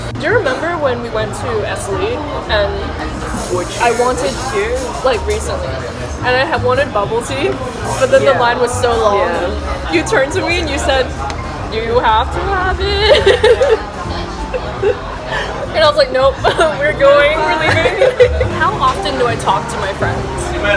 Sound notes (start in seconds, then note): 12.4 laughs